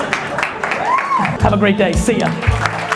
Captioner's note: audience applauding